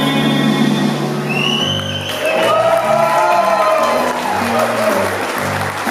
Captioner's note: cheering and whistling